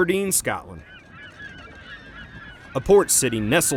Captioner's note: seagulls calling